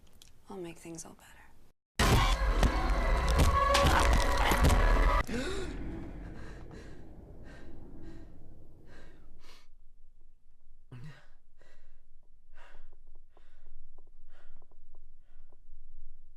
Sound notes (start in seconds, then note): 1.7 eerie ominous music; 2.8 squishing; 3.6 groaning; 4.9 gasping; 9.2 sniffing